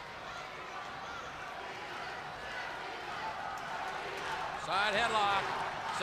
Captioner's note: crowd cheering